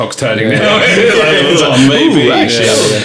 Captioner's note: laughing